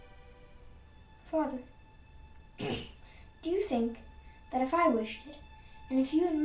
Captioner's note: coughing